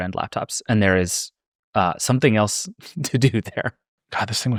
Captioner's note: laughing